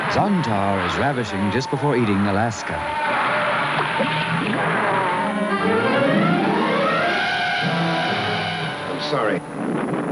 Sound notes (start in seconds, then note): 3.5 monster roaring; 6.1 dramatic theme music